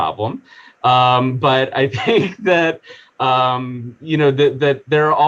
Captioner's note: chuckling